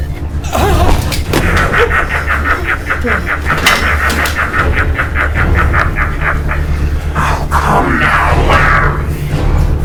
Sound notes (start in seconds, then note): 1.3 Henrietta laughing